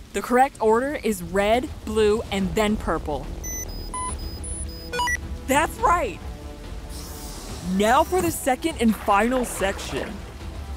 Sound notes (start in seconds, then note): 3.4 blocks beeping